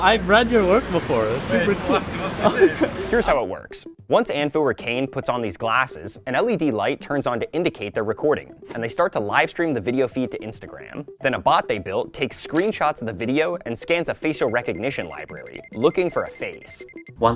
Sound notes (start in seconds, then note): 2.4 chuckles